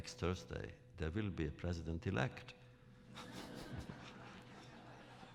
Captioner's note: laughter